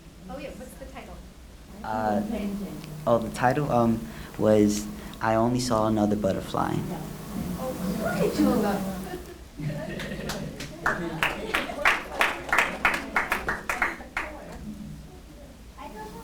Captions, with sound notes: - Oh, Yeah, what's the title? - Oh the title, was "I Only Saw Another Butterfly" (applause)